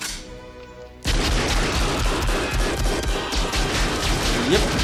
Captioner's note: gun firing rapidly